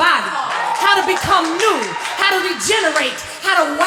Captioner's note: applause